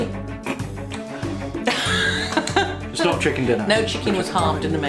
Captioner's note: laffs